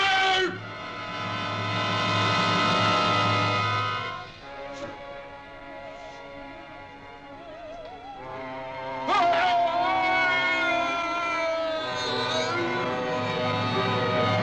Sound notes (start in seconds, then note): 0.2 dramatic music; 9.0 wailing